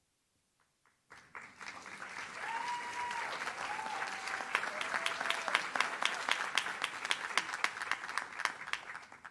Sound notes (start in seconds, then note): 2.0 audience cheers